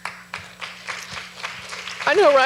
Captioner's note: audience applauds